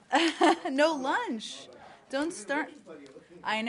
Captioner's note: laughter